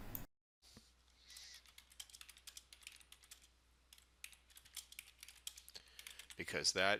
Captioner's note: sound of typing